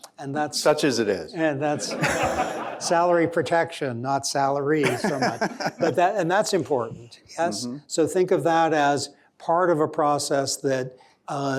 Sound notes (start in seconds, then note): 1.7 laughter; 4.8 laughter